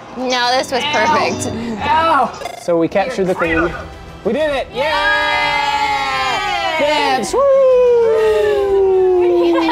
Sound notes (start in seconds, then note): 4.8 group cheers